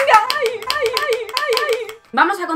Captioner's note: yay! intensifies